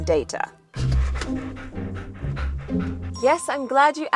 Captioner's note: dog panting